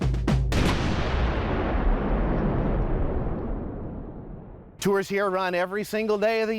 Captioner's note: cannon Fires